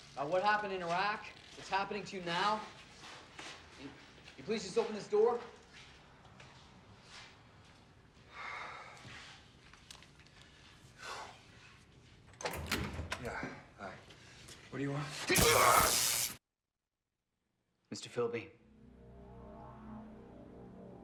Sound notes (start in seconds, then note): 8.2 sighs; 15.4 buzzing sounds